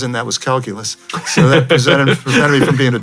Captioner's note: chuckles